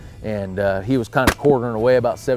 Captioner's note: gun firing